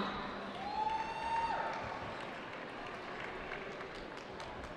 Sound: cheering

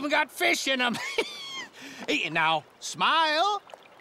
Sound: chuckles

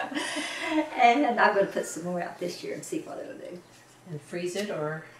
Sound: laughter

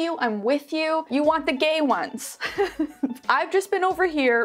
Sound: laughs

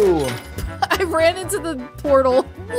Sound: laughing

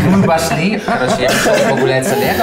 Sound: group scoffing

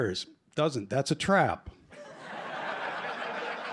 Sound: laughter

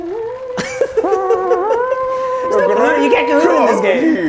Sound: laugh

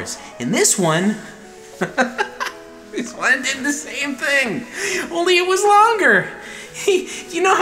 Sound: laughs

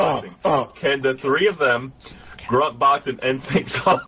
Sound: quietly

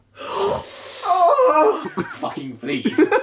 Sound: laughing

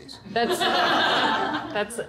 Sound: laughter

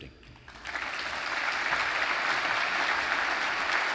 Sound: audience applauds

